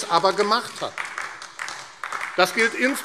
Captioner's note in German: Beifall AfD